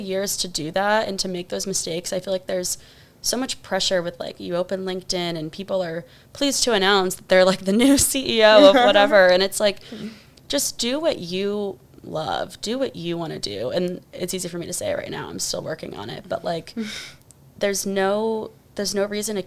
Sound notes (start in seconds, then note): 7.6 laughs